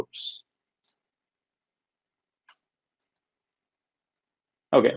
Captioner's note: mouse clicks